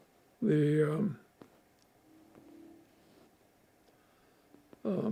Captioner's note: pauses 6 seconds